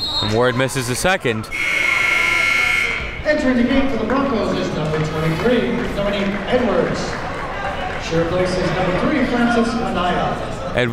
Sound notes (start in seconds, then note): 1.5 buzzer rings; 1.5 whistle blows